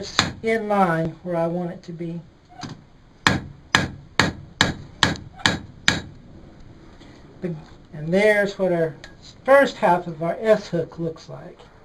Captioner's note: hammer noises